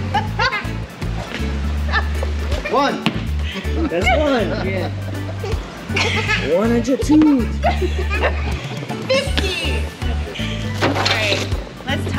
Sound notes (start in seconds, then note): 7.2 group laughing